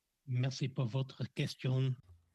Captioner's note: speaking French